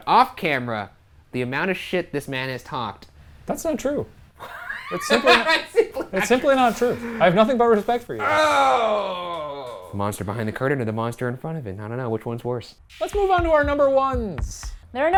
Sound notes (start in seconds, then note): 4.4 laughing; 8.2 groaning